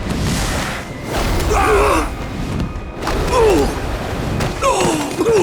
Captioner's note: grunting